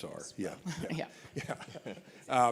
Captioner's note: laughs